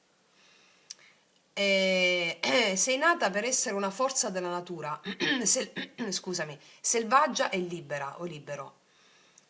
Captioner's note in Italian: schiarire la voce